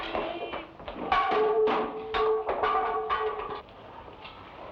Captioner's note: wood block rattles